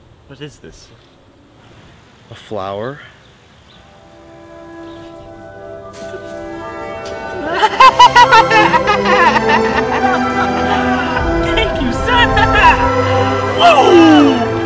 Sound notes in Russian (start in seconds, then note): 7.2 радостный смех